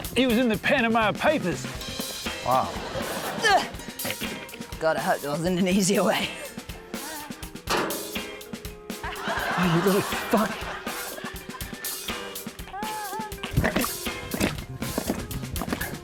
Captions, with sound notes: He was in the Panama Papers. (LAUGHTER) - Wow. - (GRUNTS) God, I hope there wasn't an easier way. (CLANG!) (LAUGHTER) - You little fuck.